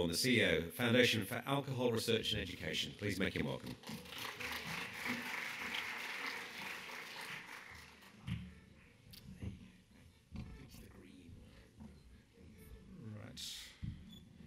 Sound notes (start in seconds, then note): 3.8 audience clapping